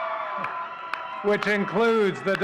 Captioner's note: audience cheering and clapping